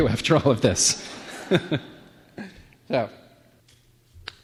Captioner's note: laughs